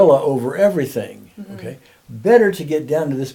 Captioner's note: humming